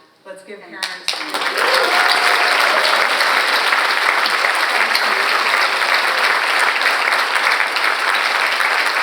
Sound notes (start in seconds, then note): 2.7 and audience applauding; 6.0 all applauding